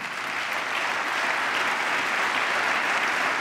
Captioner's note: applause